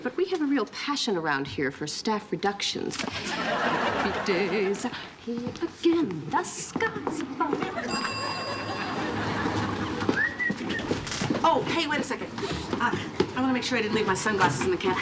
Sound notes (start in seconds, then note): 7.8 bell dinging